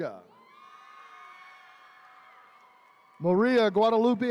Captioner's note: attendees cheering